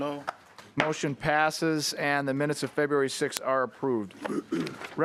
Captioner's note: chorus of ayes